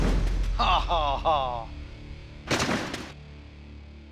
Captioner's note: laughs